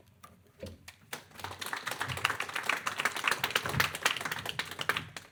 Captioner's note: audience clapping